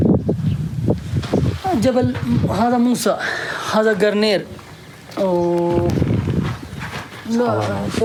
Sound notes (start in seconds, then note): 1.9 man answers in Arabic